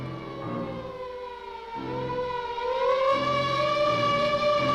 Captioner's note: sirens wailing